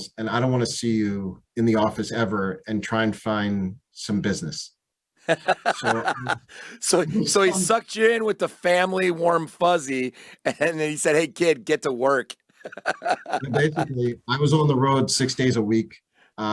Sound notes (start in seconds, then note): 5.2 laughs